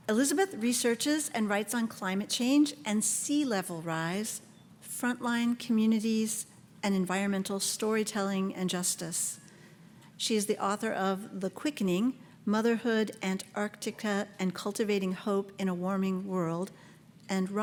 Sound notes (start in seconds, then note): none